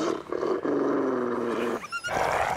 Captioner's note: wolf Whimpers & Runs Away